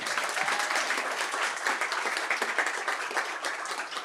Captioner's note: applause